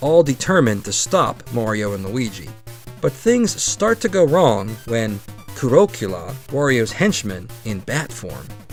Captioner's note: said like Dracula